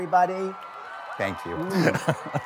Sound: audience cheers

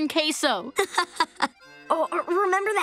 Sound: laughing

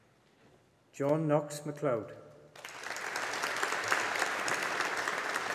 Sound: audience applauding

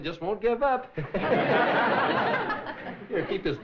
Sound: laughing

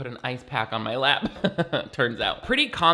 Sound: chuckles

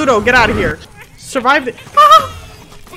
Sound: yelps

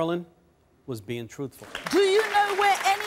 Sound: audience clapping

